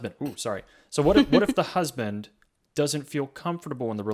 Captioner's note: laughs